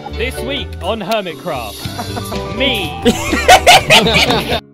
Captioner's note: collective laughter